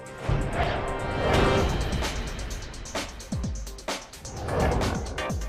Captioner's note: graphics whooshing